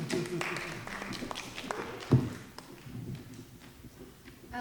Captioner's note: audience applauding